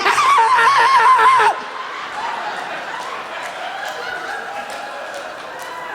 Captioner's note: panicked scream